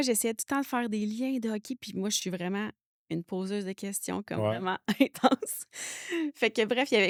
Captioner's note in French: rires